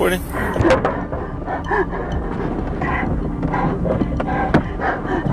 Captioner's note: suspect hyperventilating